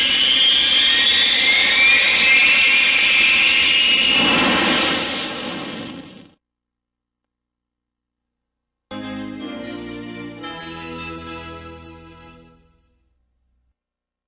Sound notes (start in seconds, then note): 6.7 silence; 8.7 90s synthesizer music plays